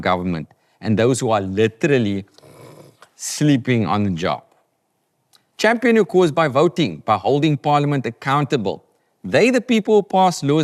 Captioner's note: snores